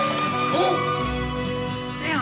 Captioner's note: dog barks